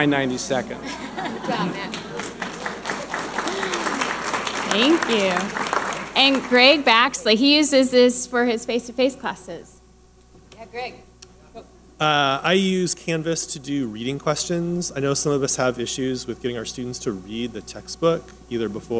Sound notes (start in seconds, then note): 1.5 audience applauding